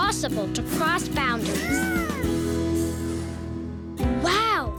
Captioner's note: squeaking